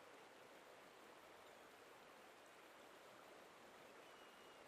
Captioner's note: wind blowing softly